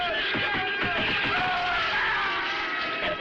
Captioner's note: screams